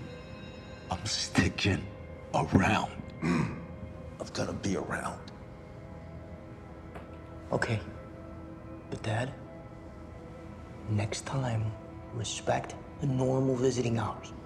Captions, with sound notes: I’m sticking around. [guard clears throat] I’ve gotta be around. Okay. But Dad, next time, respect the normal visiting hours.